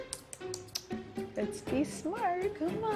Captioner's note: clicks tongue